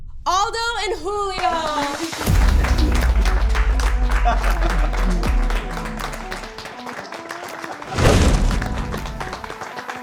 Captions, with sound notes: Aldo and Julio. (judges clapping)